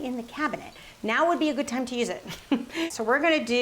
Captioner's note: laughs